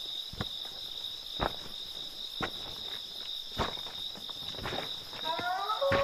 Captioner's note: pebbles crunching; wolf howling